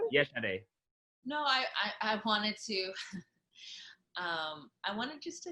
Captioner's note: laughing